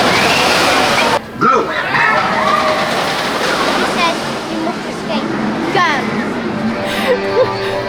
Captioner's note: ride audio and screams